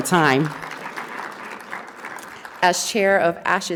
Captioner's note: audience applauding